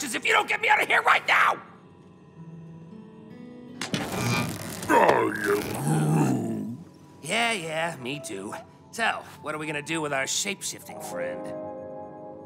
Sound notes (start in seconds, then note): 3.8 electricity crackling